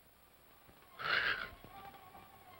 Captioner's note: Scrooge snores; tense music